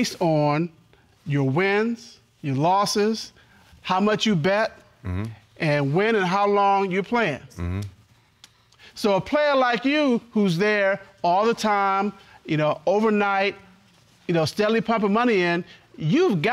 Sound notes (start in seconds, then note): none